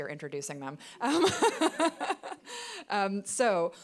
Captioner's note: laughing